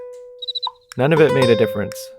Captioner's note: cricket sound